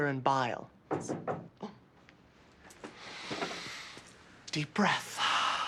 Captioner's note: knock on door